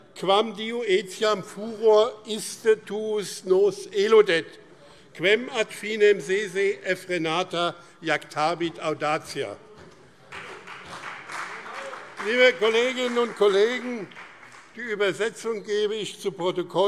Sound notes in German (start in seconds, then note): 10.2 Beifall BÜNDNIS 90/DIE GRÜNEN und vereinzelt CDU